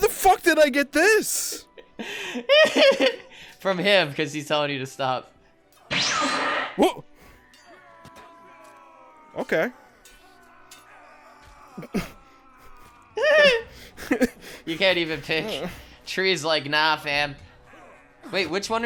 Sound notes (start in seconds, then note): 1.2 laughing